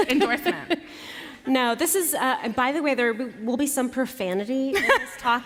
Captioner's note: laughter